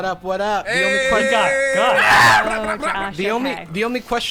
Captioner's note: yelling